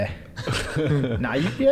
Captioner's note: giggles